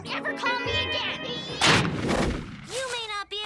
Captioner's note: logo whooshes